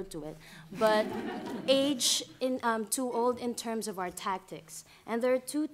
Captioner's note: laughter